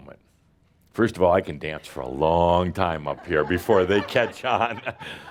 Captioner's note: laughter